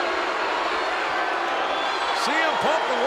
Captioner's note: crowd boos